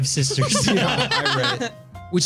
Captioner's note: laughing